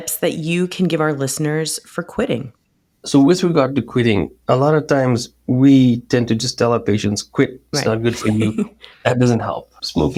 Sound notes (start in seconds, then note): 7.8 laughs